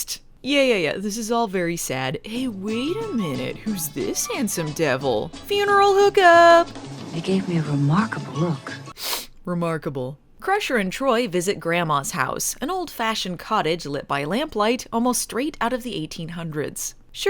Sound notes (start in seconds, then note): 8.9 snifs